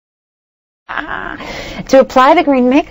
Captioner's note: laughs